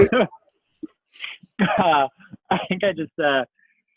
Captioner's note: laughs